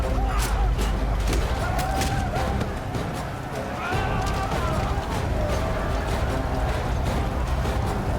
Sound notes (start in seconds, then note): 1.2 men whooping; 3.8 screams